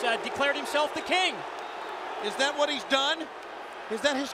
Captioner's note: crowd cheering